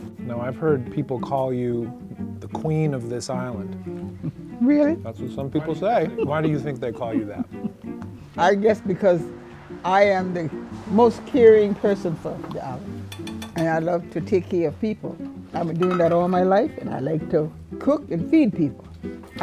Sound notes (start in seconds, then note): 5.6 laughing